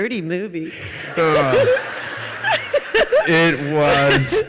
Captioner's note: audience laughs